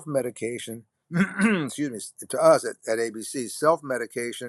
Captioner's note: clears throat